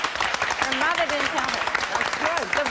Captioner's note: applause